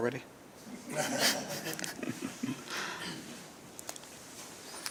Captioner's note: laughter